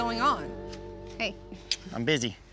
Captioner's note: smooch